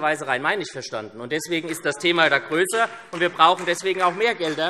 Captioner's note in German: Vereinzelter Beifall